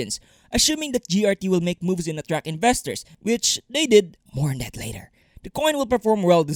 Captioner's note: whisper